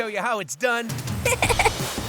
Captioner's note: chuckling